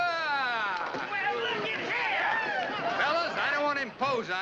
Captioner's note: men murmuring